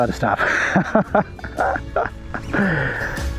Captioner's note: laughter